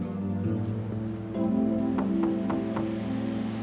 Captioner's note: knocking